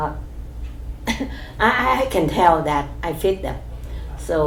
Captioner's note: coughs